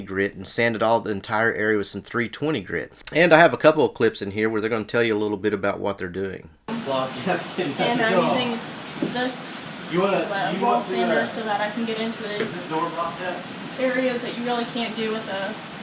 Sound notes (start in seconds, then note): 6.9 man talking